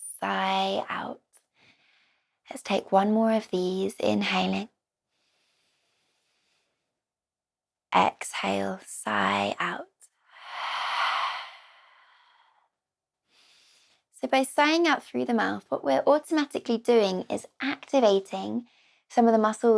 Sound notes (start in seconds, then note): 10.4 sigh